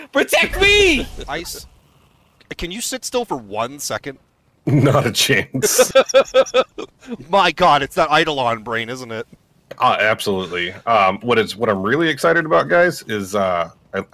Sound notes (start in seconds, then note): 5.6 laughter